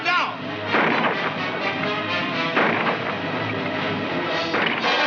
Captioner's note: gunshots firing